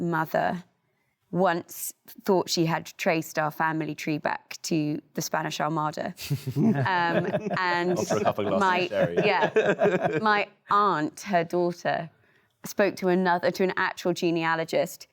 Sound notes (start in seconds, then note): 6.5 panelists laugh